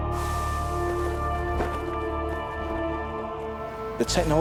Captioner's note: parachute flapping